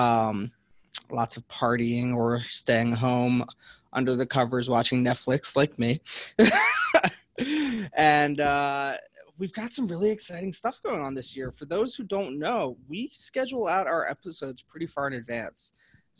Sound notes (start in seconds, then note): 7.0 laughs